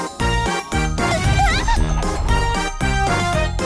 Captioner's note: wails